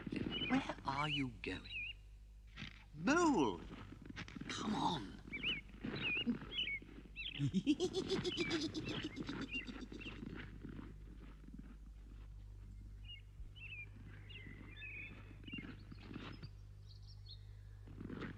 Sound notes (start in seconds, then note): 7.4 Toad snickers